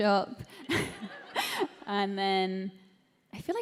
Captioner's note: laughter